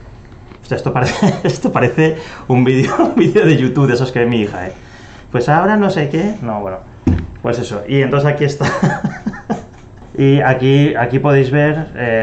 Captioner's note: laughs